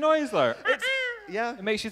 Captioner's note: ca-caw!